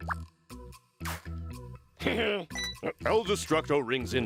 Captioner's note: laughs